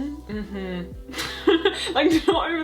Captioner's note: laughs